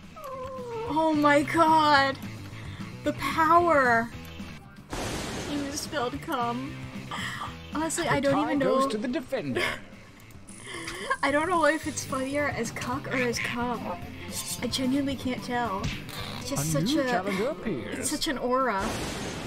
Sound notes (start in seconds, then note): 9.5 laughs